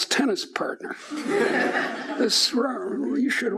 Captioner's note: laughing